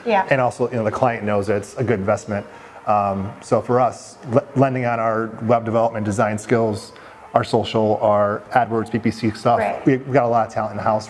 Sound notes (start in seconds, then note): none